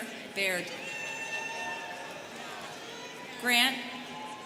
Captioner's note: students cheering